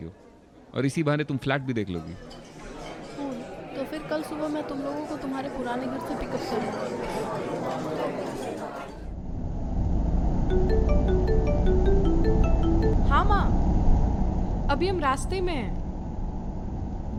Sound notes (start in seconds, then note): 10.5 phone ringing